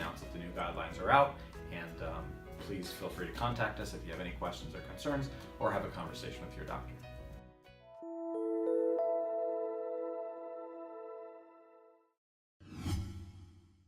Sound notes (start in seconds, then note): 7.1 gentle music; 7.8 dramatic music; 12.7 whooshing